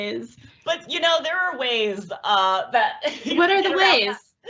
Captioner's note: laughs